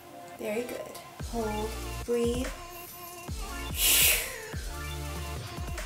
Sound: exhales heavily

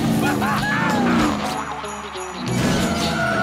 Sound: cheering

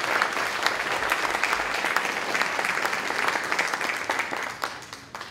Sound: applause

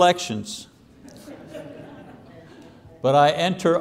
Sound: laughter

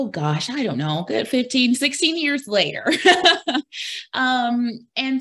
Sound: laughs

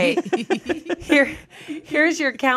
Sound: everyone laughs

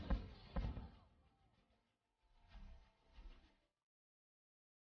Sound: silence

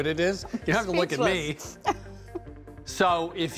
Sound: laughs

